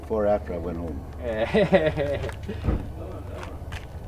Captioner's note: laughing